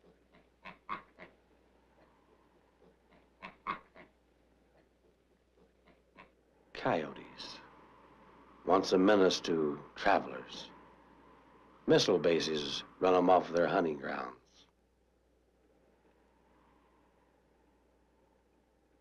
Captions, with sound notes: (pigs oinking) Coyotes. Once a menace to travelers. Missile bases run them off of their hunting grounds.